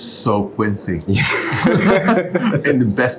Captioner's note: both laughing